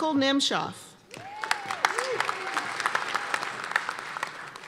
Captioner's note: cheers and applause